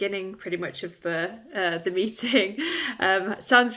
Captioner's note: chuckles